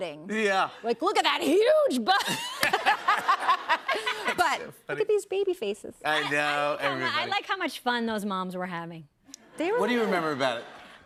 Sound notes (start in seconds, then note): 2.1 laughter